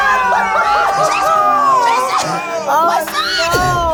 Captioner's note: all exclaiming